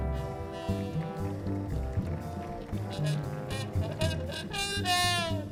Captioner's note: audience applauding